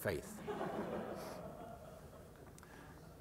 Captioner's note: laughter